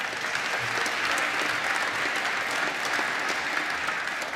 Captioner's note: applause